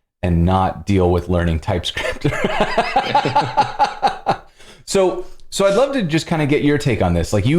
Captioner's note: laughter